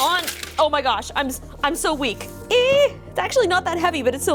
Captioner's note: squeals